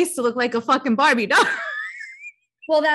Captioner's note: chuckles